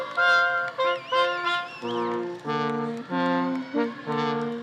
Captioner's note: audience whistling